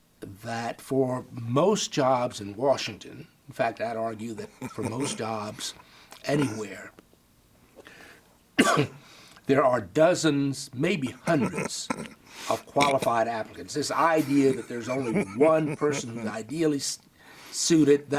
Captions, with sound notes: that for most jobs in Washington, in fact, I'd argue that for most jobs anywhere (coughs), there are dozens, maybe hundreds of qualified applicants. This idea that there's only one person who's ideally suited